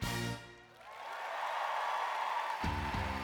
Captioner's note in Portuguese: audience cheering and applauding; upbeat rock music